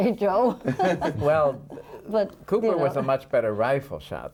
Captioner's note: laughing